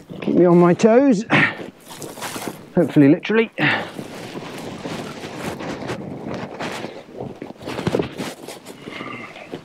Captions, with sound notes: Keep me on my toes hopefully, literally. (air whooshing)